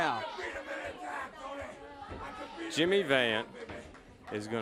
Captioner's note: crowd chatter